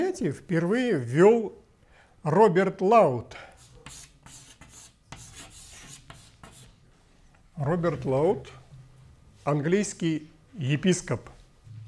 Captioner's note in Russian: звук карандача по бумаге